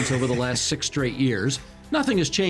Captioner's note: chuckling